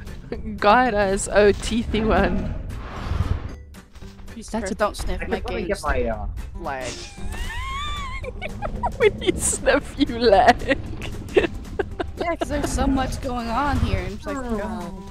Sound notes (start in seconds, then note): 7.0 giggle; 7.0 wheeze giggles